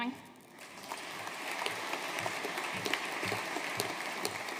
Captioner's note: audience applauding